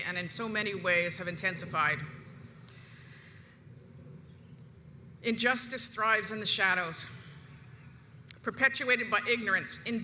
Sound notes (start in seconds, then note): none